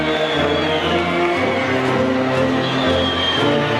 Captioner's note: audience whistling